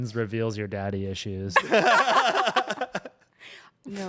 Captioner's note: everyone laughs